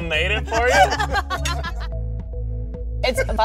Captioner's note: laughter